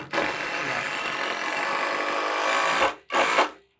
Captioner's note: machine drilling